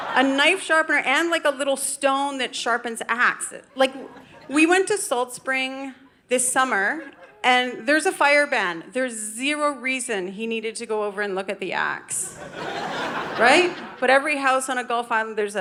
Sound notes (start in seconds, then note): 12.2 audience laughing